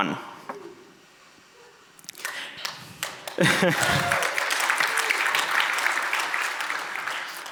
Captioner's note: audience applauds